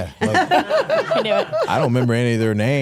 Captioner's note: Stephanie laughs